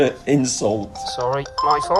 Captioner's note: cellphone ringing